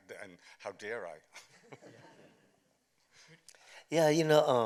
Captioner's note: chuckles